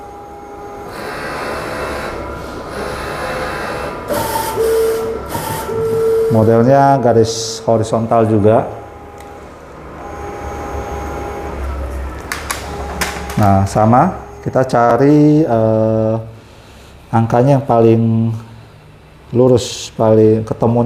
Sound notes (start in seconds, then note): 0.0 printer machine noise; 11.9 tripod noise